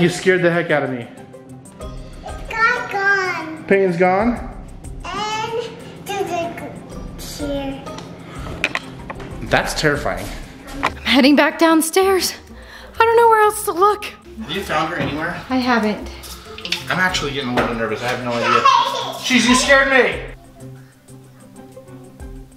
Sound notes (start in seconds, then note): 18.3 child laughing; 20.9 upbeat music